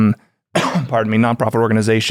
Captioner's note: coughs